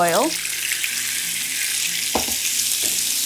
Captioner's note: oil sizzling